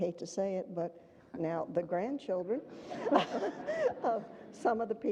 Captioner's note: audience laughter